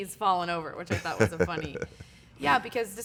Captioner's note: giggles